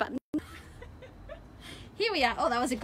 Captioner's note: laughing